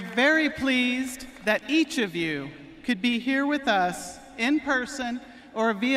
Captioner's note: cheering and applause